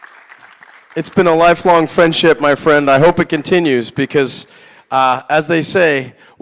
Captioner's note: applause